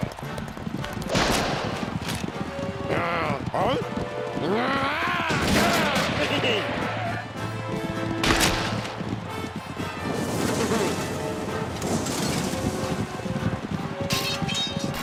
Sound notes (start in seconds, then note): 5.8 giggles; 13.8 suspenseful music